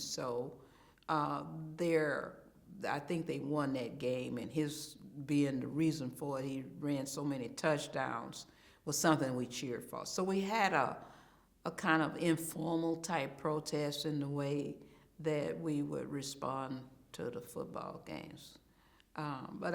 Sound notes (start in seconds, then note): none